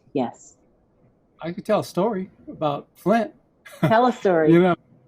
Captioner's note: laughs